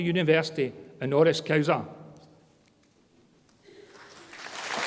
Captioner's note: speaks in foreign language; audience applause